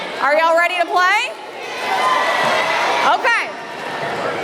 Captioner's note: kids cheering